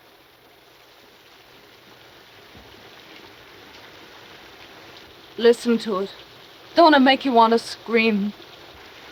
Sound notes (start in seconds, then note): 1.2 rain pattering